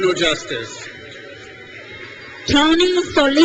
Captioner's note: crowd cheers